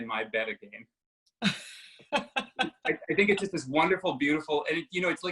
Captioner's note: laughter